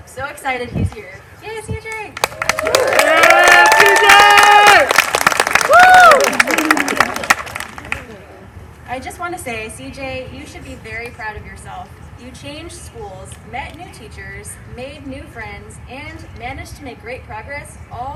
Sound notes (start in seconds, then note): 2.1 applause